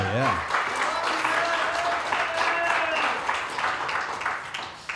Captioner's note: audience applauding